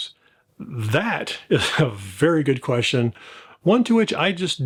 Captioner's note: laughs